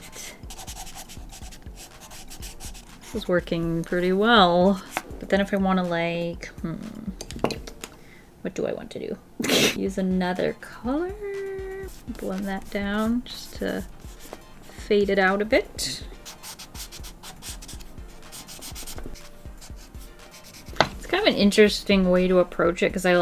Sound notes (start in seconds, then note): 9.3 laughs